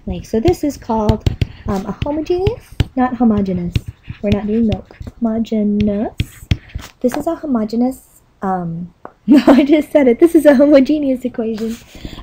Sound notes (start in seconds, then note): 9.5 chuckling